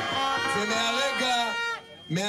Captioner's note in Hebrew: קריאות הקהל